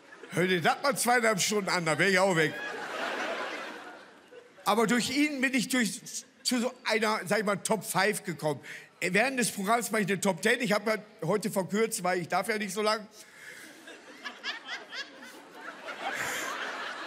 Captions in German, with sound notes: Hör dir das mal zweieinhalb Stunden an, da wär ich auch weg. Aber durch ihn bin ich zu so einer Top Five gekommen. Am Ende des Programms mach ich eine Top Ten, heute verkürzt, ich darf ja nicht so lang. (Jemand lacht.) (Mehrere lachen.)